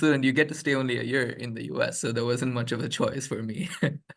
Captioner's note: chuckles